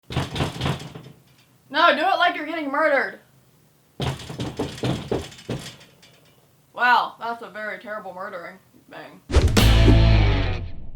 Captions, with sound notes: [BANGING ON DOOR] No, do it like you’re getting murdered. [BANGING ON DOOR] Wow, that’s a very terrible murdering, man. [INTRO MUSIC]